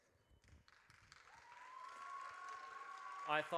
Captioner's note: audience cheers